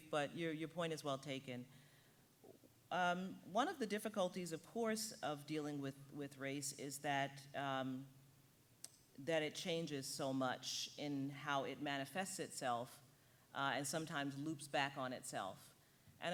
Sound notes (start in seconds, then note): none